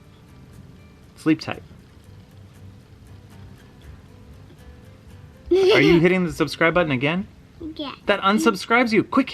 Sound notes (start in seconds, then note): 5.5 laughs